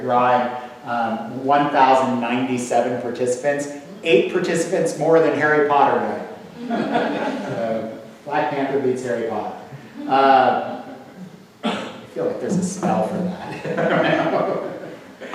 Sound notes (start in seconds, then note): 6.5 audience laughs; 13.4 laughs